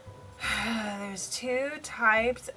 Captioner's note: sighs